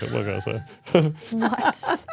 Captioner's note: speaker laughs